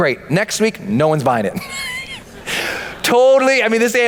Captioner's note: laughs